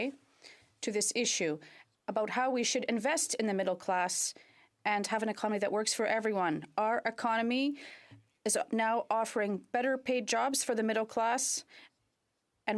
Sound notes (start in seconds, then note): 0.5 speaking indigenous language